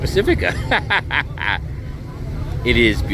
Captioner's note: laughing